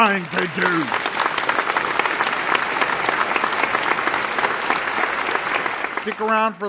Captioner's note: applause